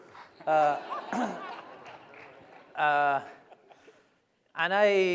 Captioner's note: laughter